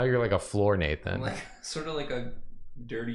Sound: laughs

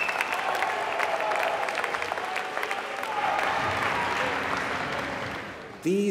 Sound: applause

